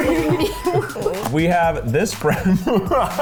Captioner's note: laughs